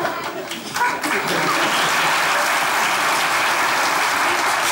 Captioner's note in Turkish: Alkış sesleri